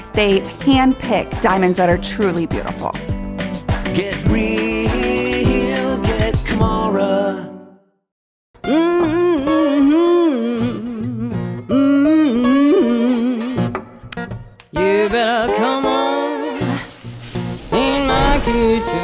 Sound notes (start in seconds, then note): 8.6 acoustic music; 8.8 humming